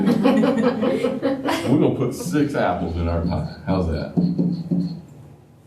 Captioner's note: laughter